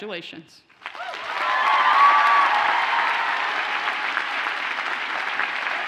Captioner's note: audience cheers and applauds